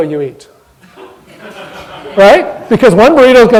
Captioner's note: audience laughter